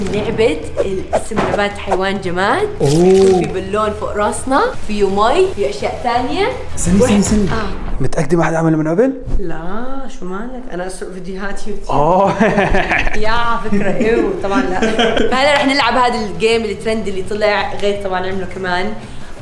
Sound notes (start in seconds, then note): 12.4 laughs; 12.4 laughs awkwardly